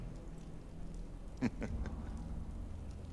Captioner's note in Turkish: Batuhan gülme sesi